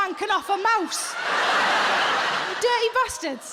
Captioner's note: audience laughing